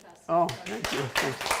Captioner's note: applause